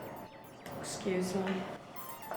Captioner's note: telephone rings